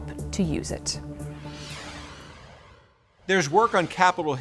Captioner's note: graphic whooshing